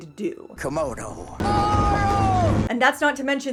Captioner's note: reading spell language